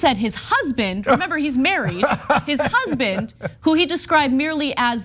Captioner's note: laugh